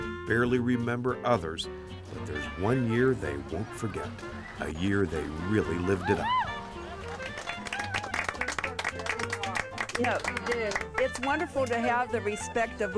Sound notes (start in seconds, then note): 6.5 ladies clapping